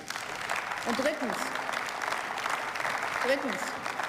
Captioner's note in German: Beifall